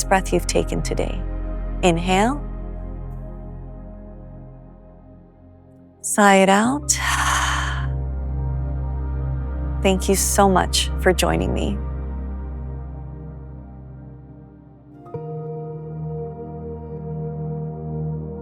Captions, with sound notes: breath you’ve taken today. Inhale. Sigh it out. [exhales] Thank you so much for joining me.